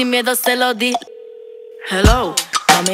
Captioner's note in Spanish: teléfono sonando